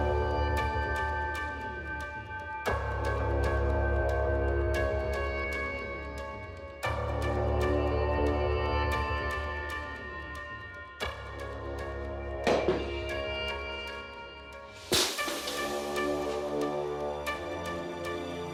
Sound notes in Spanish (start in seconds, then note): 12.4 Golpes